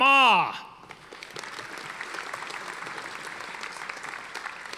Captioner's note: audience applauding